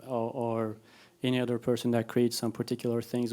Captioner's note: none